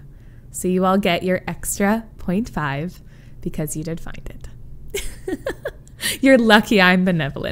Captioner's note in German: lacht